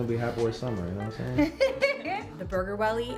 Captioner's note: laughing